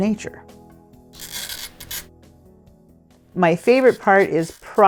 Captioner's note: tool scraping